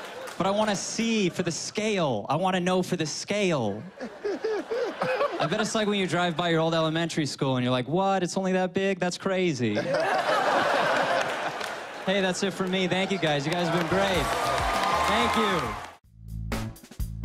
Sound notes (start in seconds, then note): 3.8 laughing; 9.7 laughter